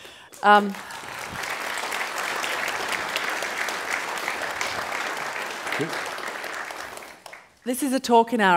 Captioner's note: applause